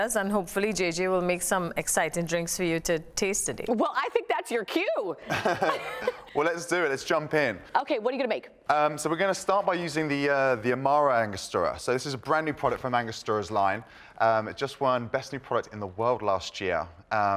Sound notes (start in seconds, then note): 5.2 laughs